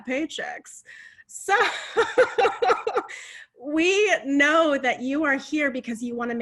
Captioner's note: laughing